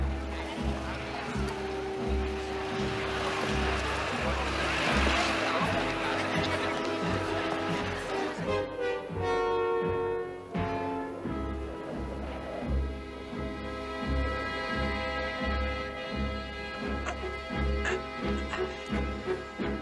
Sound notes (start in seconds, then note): 16.9 straining